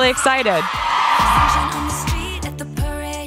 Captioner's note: cheering